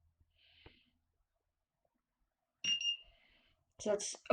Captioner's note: beep beep